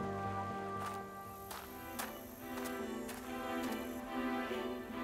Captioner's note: steps on crushed stone